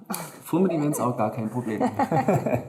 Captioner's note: laughs